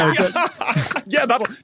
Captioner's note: group laughing